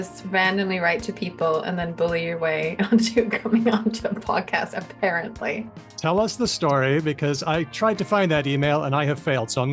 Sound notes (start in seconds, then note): 2.8 laughs